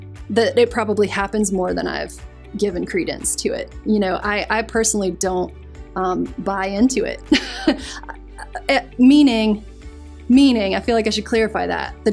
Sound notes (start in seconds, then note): 7.3 chuckles